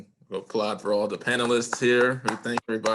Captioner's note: applause